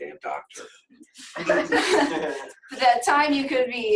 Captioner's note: laughs